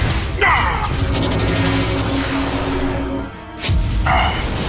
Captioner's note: electrical humming